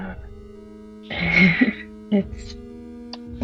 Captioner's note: laughs